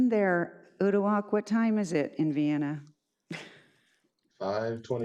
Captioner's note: laughs